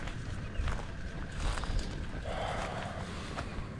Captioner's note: sigh